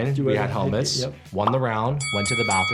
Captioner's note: bell rings